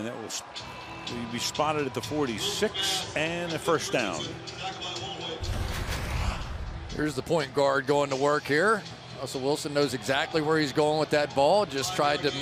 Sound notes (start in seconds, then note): 4.9 pa announcement